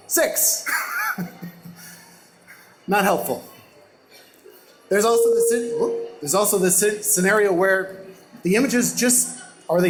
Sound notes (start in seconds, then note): 1.2 laughs; 5.1 microphone distortion